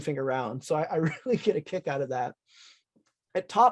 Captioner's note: chuckling